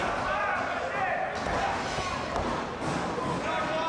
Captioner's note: crowd yells